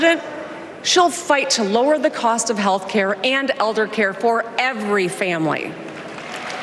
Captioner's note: applause